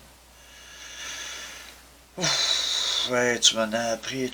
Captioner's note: sigh of discouragement